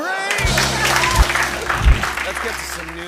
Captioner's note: cheers and applause